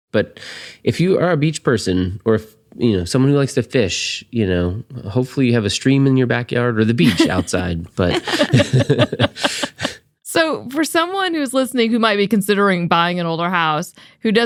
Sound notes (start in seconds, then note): 8.0 laughing; 9.1 all laughing